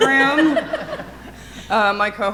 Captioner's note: audience laughing